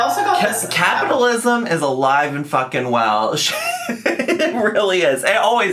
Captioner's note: laughs